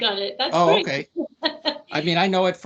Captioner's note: laughing